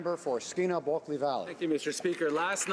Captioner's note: applause